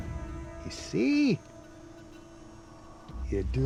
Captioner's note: scottish accent